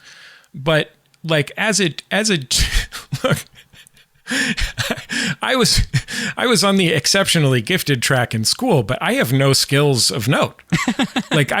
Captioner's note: laughs